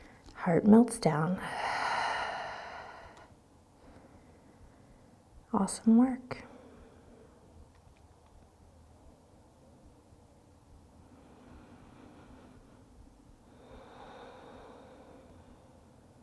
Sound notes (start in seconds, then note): 11.2 deep breathing